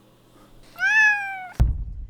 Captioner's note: speaking cat